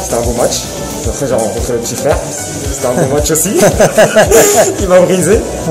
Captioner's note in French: rire